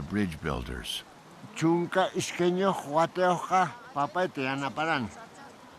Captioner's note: speaking Quechua